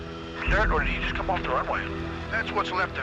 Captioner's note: man on Radio